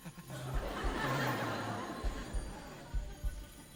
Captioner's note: awkward giggle; audience laugh